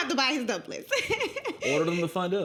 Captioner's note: laughing